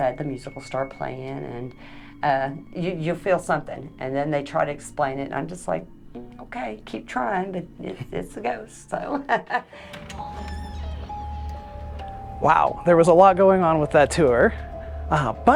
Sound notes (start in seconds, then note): 9.1 chuckles; 9.8 eerie music